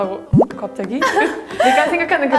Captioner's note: laughing